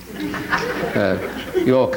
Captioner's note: audience laughing